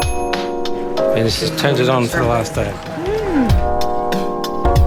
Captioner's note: mmm